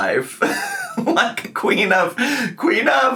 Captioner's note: laugh